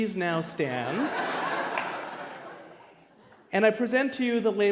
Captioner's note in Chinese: 笑聲